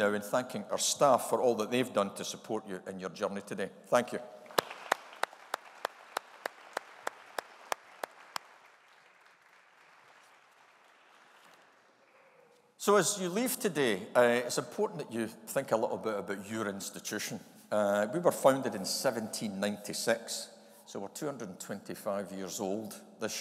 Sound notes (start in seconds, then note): 4.5 audience applauding